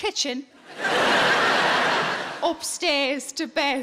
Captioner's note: audience laughing